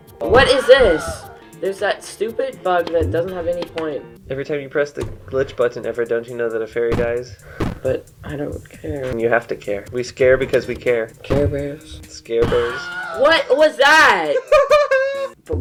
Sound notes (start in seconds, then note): 12.5 Wilhelm scream; 14.1 laughs